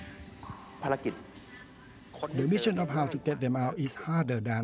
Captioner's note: man speaking Thai